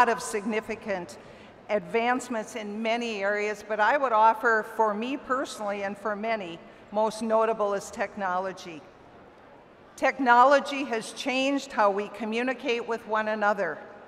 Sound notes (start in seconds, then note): none